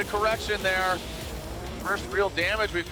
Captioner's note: engine roaring